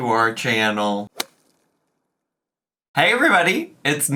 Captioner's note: logo thuds